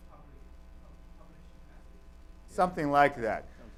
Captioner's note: man stutters answer